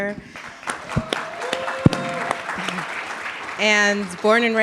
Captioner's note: audience clapping